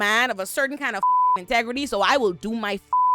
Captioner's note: beep; beep